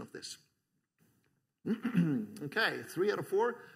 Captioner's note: clears throat